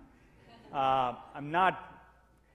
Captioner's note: audience laughs